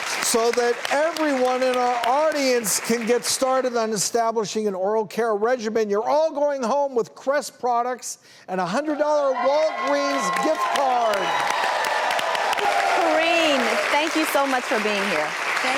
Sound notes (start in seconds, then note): 0.0 audience applauds; 9.2 audience applauds